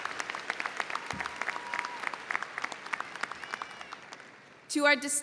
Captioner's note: audience cheering